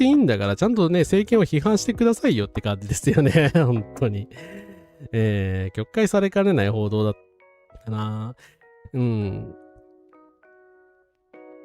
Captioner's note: laughs